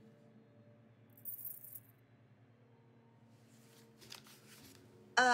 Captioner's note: necklace jangles